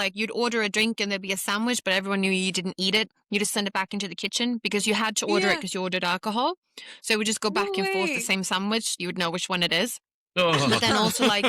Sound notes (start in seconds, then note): 10.4 laughter